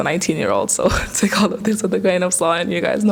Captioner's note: laughter